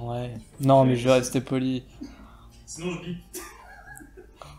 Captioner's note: laugh